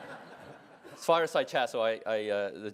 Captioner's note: laugh